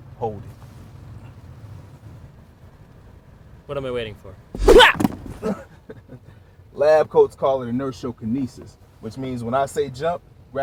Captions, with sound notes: Hold it. What am I waiting for? (yelp) (laughing) Labcoats call it inertiokinesis. Which means when I say jump,